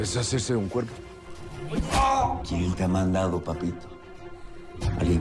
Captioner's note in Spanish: Quejido